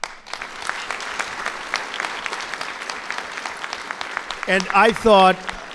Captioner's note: applause